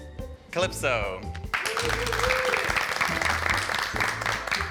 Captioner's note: soft whimsical music continues; group applauding